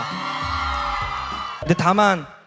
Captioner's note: crowd applauding